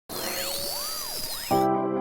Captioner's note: static